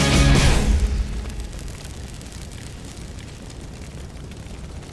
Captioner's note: fire Crackling